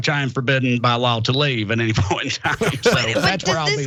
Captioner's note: laugh